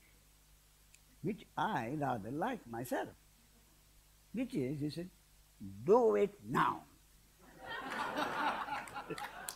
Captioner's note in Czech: smích